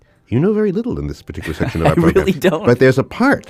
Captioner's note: laughs